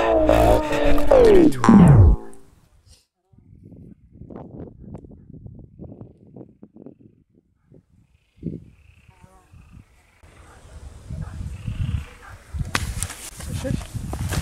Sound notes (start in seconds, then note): 8.3 in the background you can hear screeching frogs from the lake